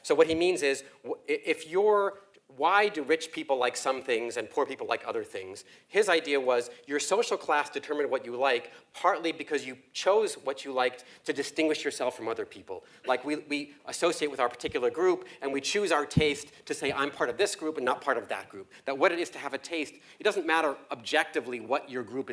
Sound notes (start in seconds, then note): none